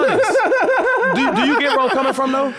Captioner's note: laughing